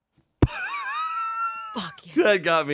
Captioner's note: laughs